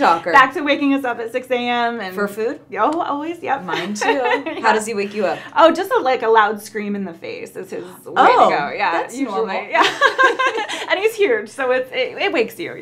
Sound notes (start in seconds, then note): 3.6 laughs